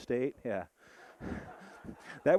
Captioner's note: audience laughing